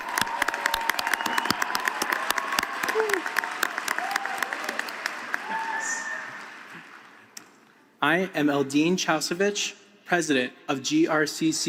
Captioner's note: applause